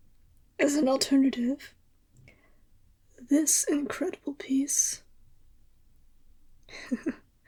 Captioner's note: laugh